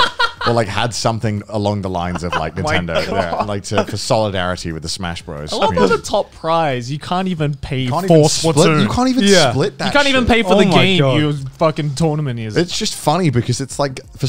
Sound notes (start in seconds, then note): 2.0 laughing